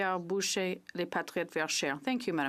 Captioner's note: speaking French